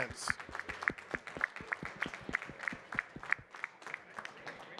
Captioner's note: audience clapping